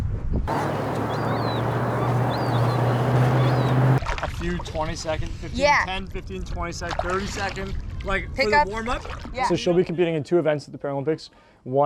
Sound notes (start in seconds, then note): 0.5 seagulls squawking